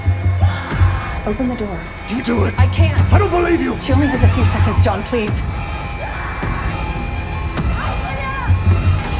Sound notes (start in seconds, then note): 0.4 screaming; 5.3 alarm blaring; 5.8 Dr. Halsey screaming; 8.4 alarm blaring